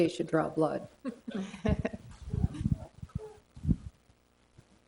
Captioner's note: everyone chuckles